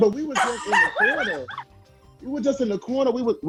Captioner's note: laughing